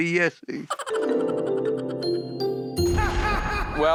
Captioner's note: magical twinkling